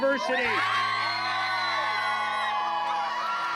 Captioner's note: screaming